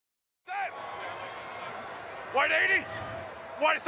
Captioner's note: shouting